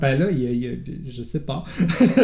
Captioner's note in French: rires